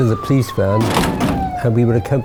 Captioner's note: slam